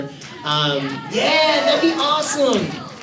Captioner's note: audience cheers